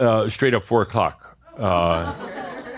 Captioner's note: some chuckles